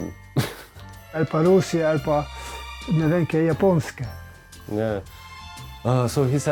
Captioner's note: speaking in a foreign language